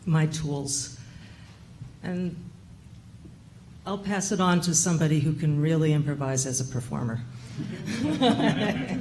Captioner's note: laughter